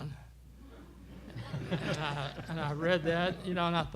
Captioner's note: laughter